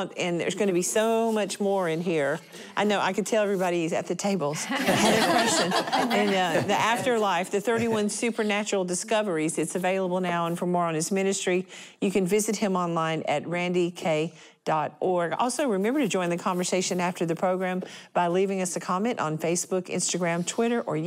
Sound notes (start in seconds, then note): 4.6 laughter